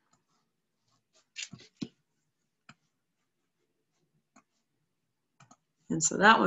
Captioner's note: silence